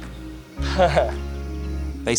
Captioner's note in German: lacht